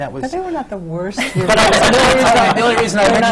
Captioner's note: laughter